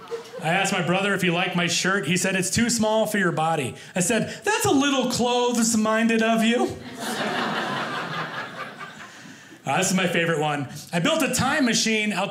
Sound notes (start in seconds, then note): 6.8 audience laughing